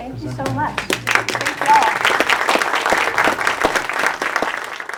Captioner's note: audience applauds